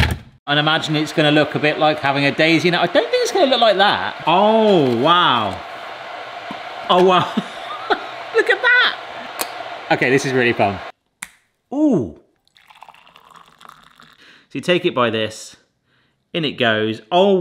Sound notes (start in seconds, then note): 7.0 laughs; 12.4 water splashing